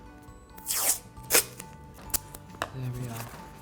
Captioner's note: tape screeching